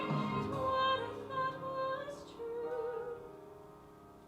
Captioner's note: none